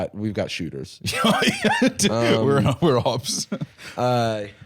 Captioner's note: laughs